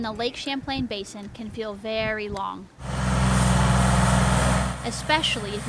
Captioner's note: machinery whirring